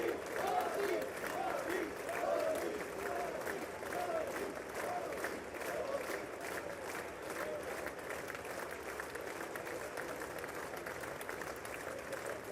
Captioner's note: cheers and applause